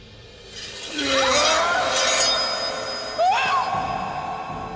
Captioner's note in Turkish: Kılıç sesleri; Çığlık sesleri; Müzik - Gerilim